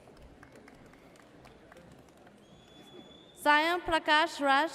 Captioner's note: audience applauds